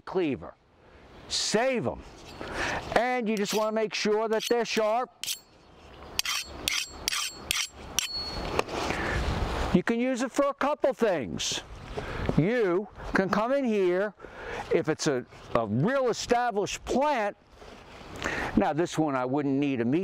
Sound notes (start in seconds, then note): 8.6 cleaver clanks